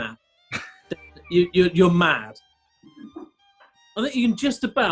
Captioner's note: laughing